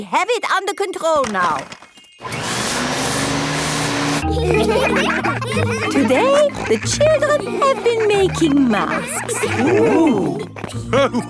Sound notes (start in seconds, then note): 2.2 whirring; 4.9 all laughing